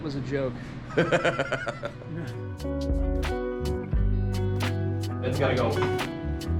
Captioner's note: laughs; gentle music